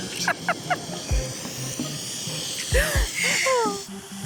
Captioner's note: laughter